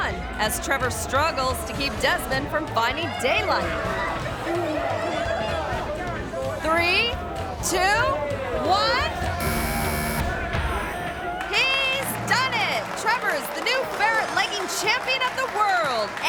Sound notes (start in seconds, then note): 5.4 people chattering; 9.4 buzzer buzzing